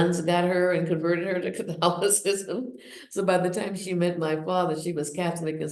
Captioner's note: laughs